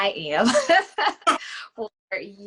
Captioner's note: laughs